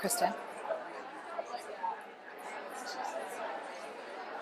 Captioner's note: faint chatters continues